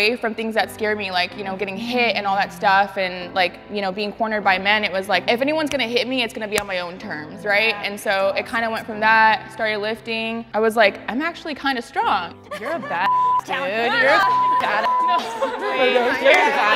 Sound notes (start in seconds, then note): 13.0 beep; 13.6 supportive chatter